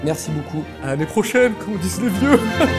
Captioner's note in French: rire